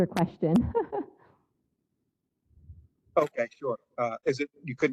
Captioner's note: laugh